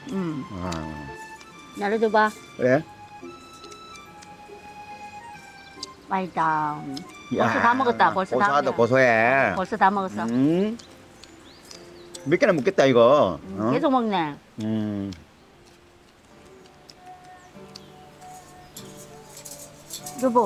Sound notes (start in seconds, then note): 15.8 eating; 16.6 caroling